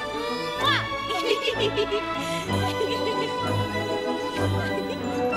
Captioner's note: Anna and Elsa laughing